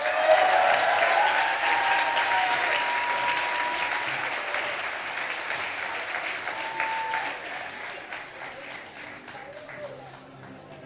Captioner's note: cheers and applause